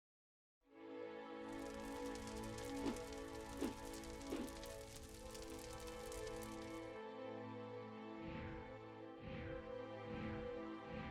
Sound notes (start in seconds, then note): 1.4 fire cracking; 1.6 gentle music; 3.6 air whooshing